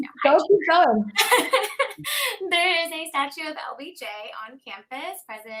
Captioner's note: laughing